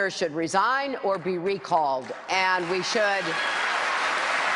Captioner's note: cheers and applause